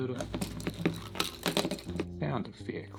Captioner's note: jangling sounds